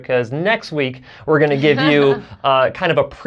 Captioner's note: laughs